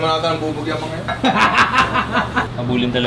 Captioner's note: laughter